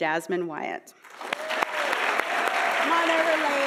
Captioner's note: audience applauding